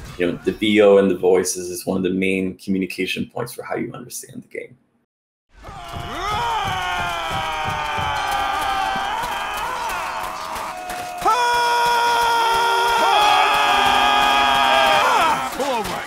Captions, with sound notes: you know, the VO and the voices is one of the main communication points for how you understand the game. [BATTLE CRIES]